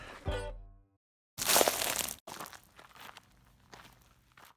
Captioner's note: foot steps and leaves crunching